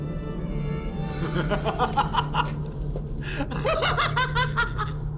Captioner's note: man laughs